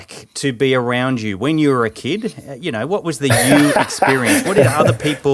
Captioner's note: laughing